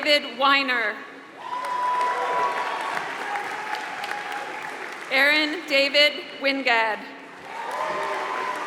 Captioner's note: applause; applause